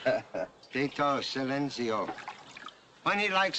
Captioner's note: in spanish